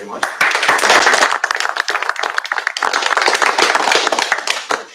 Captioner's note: applause